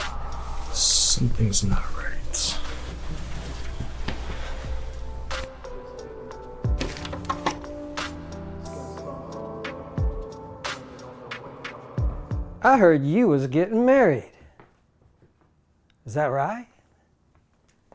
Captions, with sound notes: - Something's not right. (Tense music continues) (People chattering) - I heard you was getting married. Is that right?